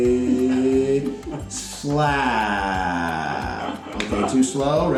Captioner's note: slapped face